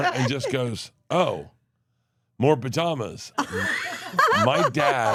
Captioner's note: Steph laughs